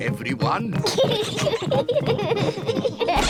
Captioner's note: peppa and george giggling